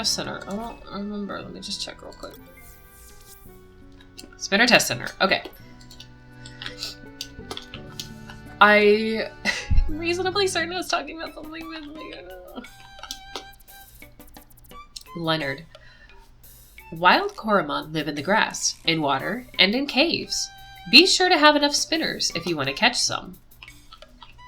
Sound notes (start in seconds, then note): 5.6 laughs; 15.5 trails off uncomfortably